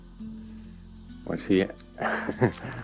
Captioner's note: laughs